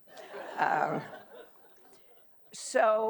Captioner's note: audience laughing